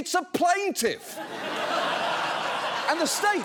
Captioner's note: audience laughing